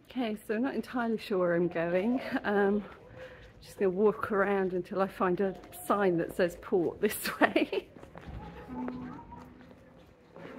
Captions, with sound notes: Okay, so not entirely sure where I'm going. Just gonna walk around until I find a sign that says, 'port this way.' [laughing]